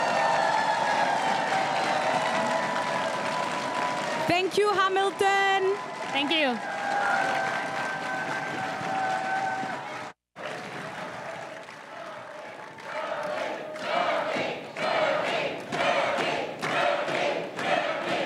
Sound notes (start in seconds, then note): 0.1 crowd cheering and applauding; 7.6 crowd cheering and applauding; 11.9 crowd chanting candidate names